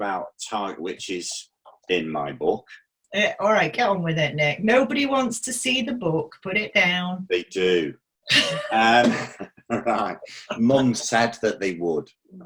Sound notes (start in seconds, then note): 8.3 both laughing